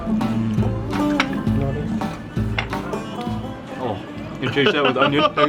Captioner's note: iranian instrumental music; dishes clattering; laughing